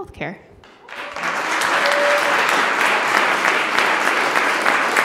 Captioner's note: applauding